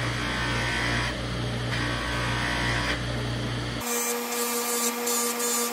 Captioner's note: buzzing